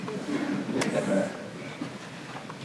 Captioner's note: laughter